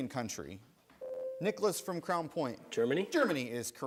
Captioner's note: buzzer sounds